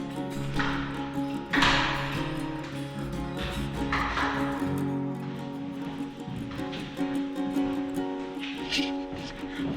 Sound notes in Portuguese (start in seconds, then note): 1.4 Porta fechando